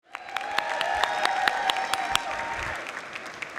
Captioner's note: audience applauds